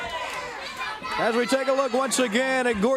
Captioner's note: crowd chatter